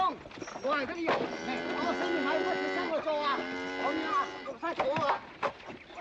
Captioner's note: yammering in Cantonese; cow mooing